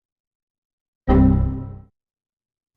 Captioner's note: error sound